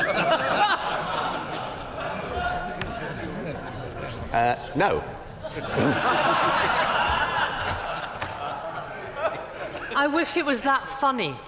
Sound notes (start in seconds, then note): 2.6 laughter